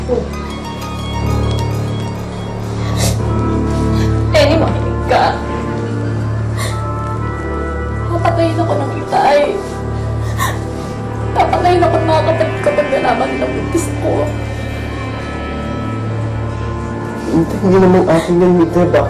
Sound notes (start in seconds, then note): 0.6 suspenseful music intensifies; 2.7 Mita sobbing; 6.5 inhales; 10.2 sobs